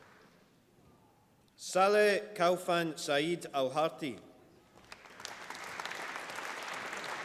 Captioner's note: applause